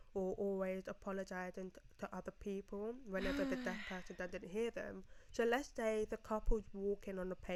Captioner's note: sighs